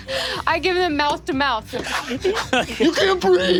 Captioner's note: blowing